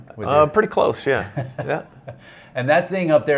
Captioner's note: laughs